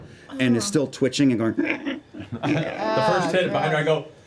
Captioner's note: whimpering noises